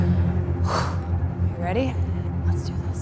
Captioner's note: breathes deeply